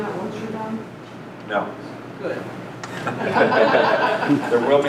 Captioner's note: group laughter